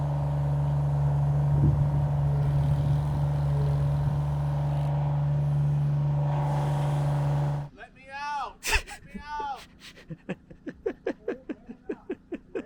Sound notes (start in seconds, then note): 8.6 laughing